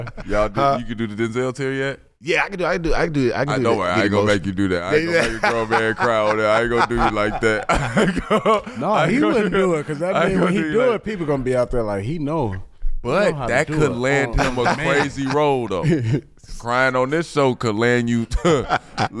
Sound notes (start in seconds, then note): 4.8 laughing; 18.2 laughs